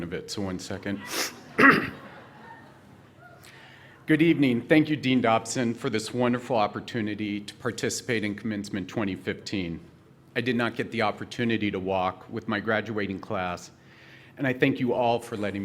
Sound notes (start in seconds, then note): 1.9 laughter